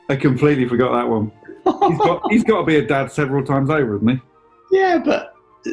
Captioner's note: laughing